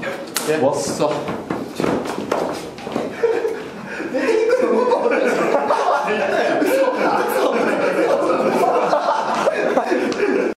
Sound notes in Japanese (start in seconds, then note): 2.5 苦笑